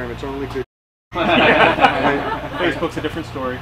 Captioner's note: laughs